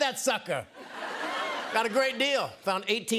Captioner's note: laughter